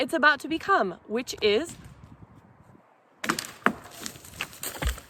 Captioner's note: sound of branch crashing and falling from tree